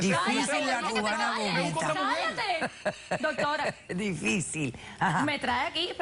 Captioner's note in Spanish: Ríe